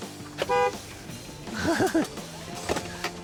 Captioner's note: honks horn; laughs